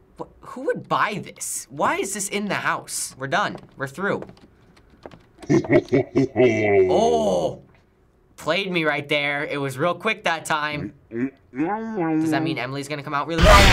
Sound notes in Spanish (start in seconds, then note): 5.4 Risa siniestra de profundidad; 13.4 Risas fuertes y repentinos